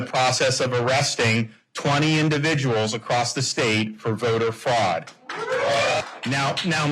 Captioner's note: applause